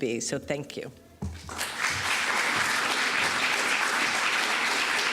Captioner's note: applause